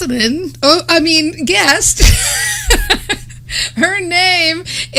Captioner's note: laughs